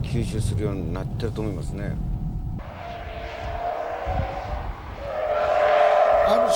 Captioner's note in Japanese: 大歓声